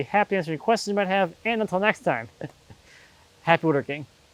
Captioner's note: laughs